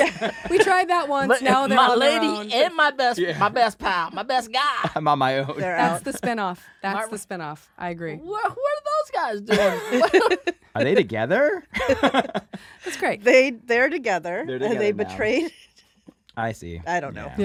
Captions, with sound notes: We tried that once. My lady and my best pal, my best guy, I'm on my own. That's the spin off. That's the spin off. What do those guys do? [laughs] Are they together? [laughing] That's great. They're together and they betrayed-- -I see. -I don't know.